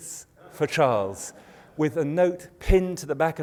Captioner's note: laughter